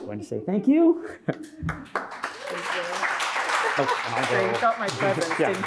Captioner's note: audience applauding